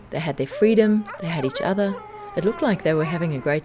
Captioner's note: dog howling